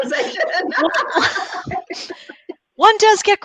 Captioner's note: laughs